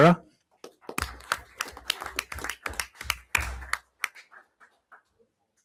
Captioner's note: everyone applauds